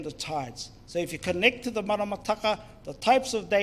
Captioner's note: speaks in foreign language